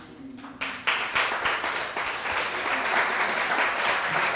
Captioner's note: audience clapping